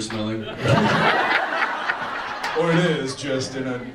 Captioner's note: audience laughs